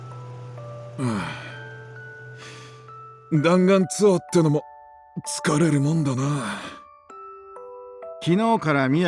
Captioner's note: sigh